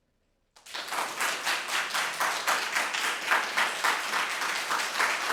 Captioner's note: audience clapping